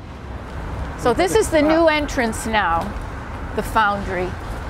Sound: voiceover

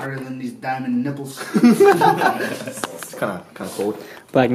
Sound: laughing

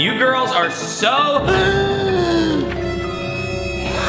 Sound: gasping; spooky music

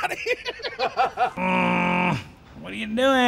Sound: people laughing

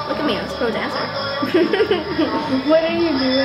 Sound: laughing

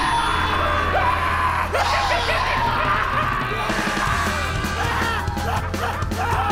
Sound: crash Screaming; both Screaming

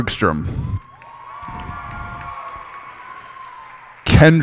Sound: cheers and applause

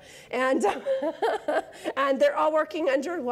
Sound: laughs

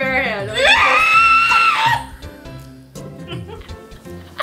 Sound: screaming; laughter

